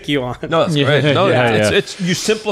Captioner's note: chuckling